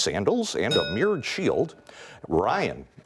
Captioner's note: bell rings